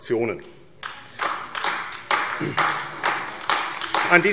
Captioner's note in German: Beifall AfD